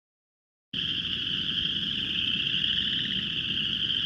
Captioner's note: frogs croaking